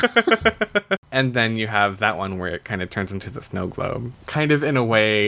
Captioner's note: laughs